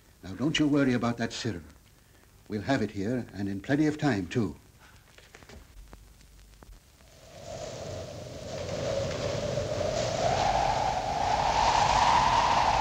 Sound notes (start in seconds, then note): 7.0 wind howling